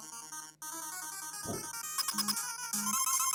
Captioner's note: nervous exhale